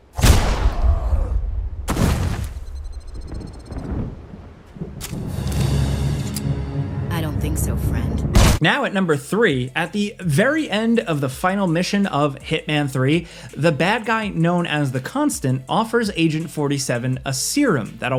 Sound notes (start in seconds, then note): 0.1 gunshot booms; 1.8 body thuds; 3.0 thunder rumbles; 5.1 dramatic music